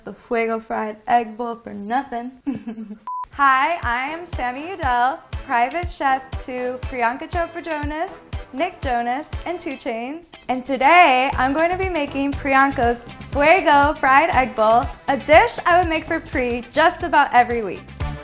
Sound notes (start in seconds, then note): 2.5 laughs; 3.0 screen beeping; 4.5 upbeat music